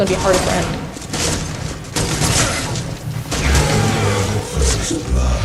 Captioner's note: gunshot sounds